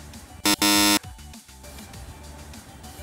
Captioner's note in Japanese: ブッブー